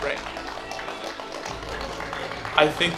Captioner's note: clapping